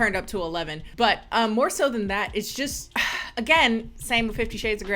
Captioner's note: sighs